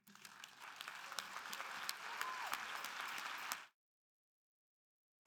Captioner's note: audience applauding